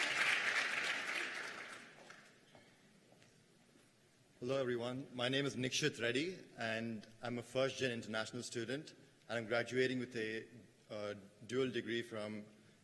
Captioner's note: cheers and applause